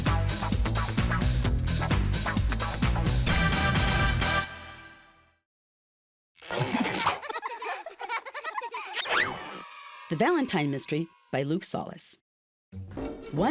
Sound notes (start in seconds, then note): 6.7 children laughing